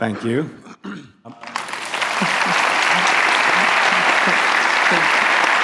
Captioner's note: applause